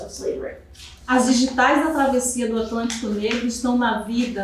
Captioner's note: speaking portuguese